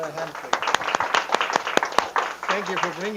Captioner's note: applause